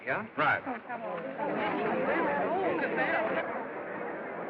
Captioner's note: crowd Chattering